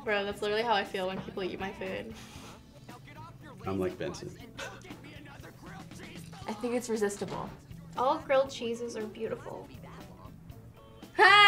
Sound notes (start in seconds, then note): 4.3 laughs